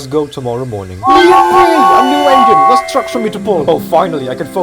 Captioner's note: the engines whistle